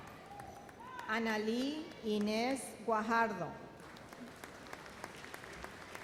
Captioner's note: audience applauds